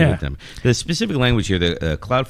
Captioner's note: uh